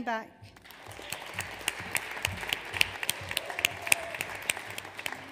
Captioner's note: audience applauds